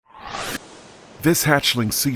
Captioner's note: swooshing